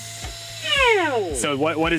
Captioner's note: machine whirs